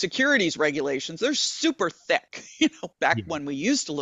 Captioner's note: chuckling